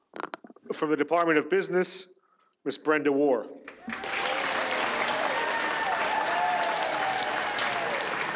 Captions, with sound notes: - From the Department of Business, Miss Brenda Warr. (audience applauds)